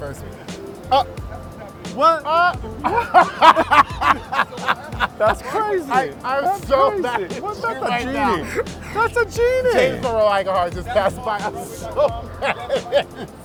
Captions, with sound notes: Uh, what? Uh... (laughing) >> That's crazy. >> I'm so mad at him right now. >> Was that the Genie? That's a Genie. >> James Monroe Iglehart just passed by. (laughing) I'm so mad at him.